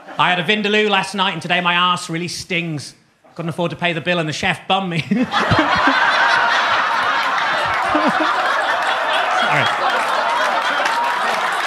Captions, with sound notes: I had a vindaloo last night and today my arse really stings. I couldn't afford to pay the bill and the chef bummed me. (Gary laughing) (audience laughing) Sorry.